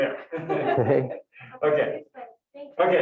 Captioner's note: woman laughing